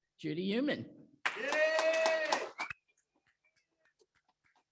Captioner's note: audience applaudes